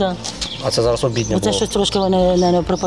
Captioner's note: shelling